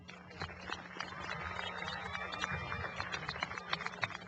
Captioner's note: applause